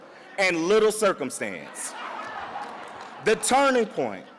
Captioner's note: audience laughs